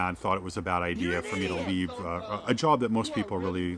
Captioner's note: voiceover